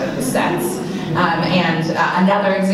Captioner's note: audience laughing